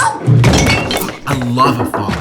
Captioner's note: crashing